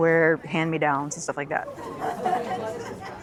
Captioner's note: kids laughing